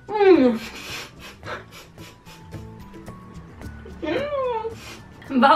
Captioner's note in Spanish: risas